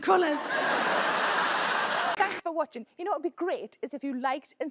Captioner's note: audience laughing